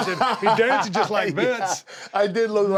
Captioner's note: laugh